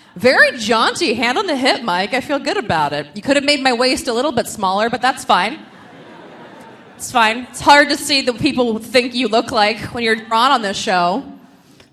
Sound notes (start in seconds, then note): 5.5 audience laughing